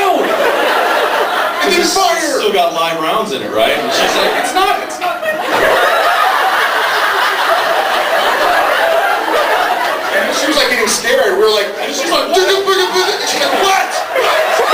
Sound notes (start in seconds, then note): 0.0 laughs; 5.1 laughs; 6.5 laughs; 11.4 laughs; 12.5 panicked mumble; 12.9 laughs; 14.4 laughs